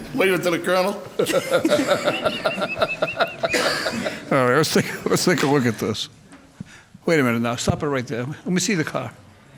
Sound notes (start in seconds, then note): 1.2 laughs; 1.7 guffaws